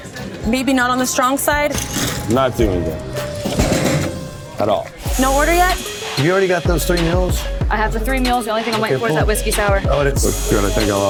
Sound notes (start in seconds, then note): 3.0 clattering